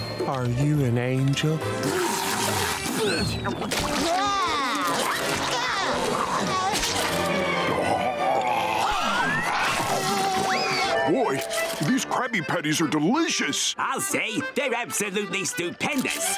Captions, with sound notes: Are you an angel? [spitting] [yelling] Boy, these Krabby Patties are delicious. I'll say, they're absolutely stupendous.